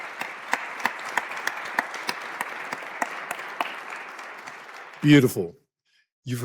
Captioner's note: applause